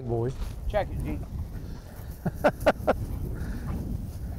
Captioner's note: laughing